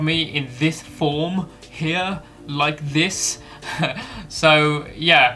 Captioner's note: laughs